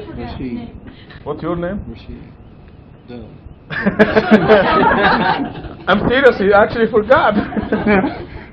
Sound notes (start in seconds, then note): 3.7 Gülüşmeler